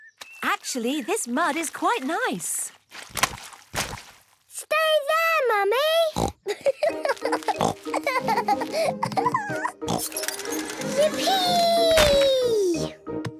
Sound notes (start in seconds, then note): 6.2 laughing